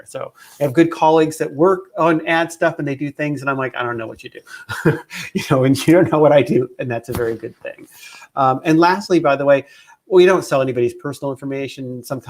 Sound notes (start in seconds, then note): 4.5 laughs